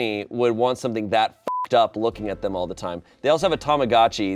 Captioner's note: beep